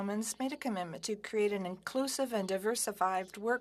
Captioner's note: speaking French